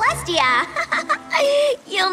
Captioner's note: chuckles nervously